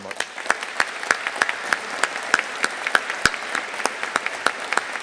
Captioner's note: audience applauding